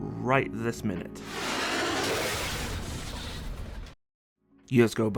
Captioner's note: jet fighter crashing Noises